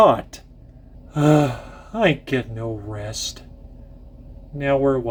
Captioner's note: groan